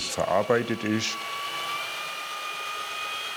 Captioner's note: machine noise